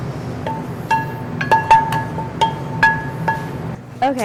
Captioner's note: tapping